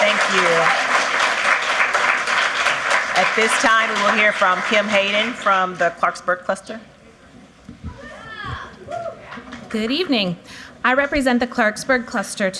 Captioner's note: applause